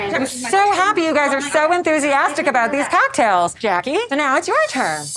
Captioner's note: none